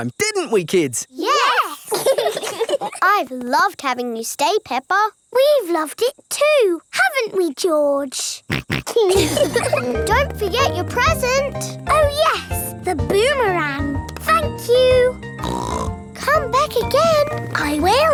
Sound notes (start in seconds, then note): 1.6 laugh; 8.4 snorts; 8.5 laughs; 15.4 snorts